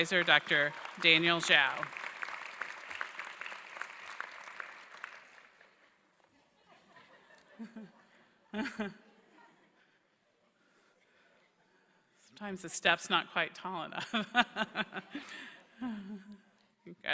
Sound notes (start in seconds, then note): 1.9 applause; 1.9 laughter; 14.0 laughter